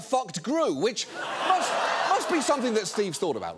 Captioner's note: studio audience laughs